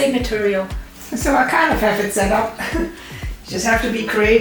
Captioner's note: laughs